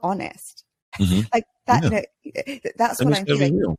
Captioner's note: laughs